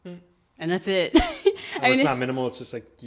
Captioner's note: laughs